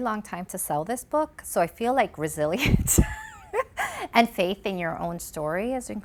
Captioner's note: laughs